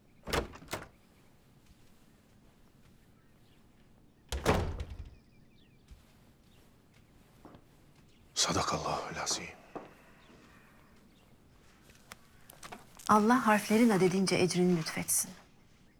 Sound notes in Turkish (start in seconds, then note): 0.2 Kapı açılma sesi; 4.3 Kapı kapanma sesi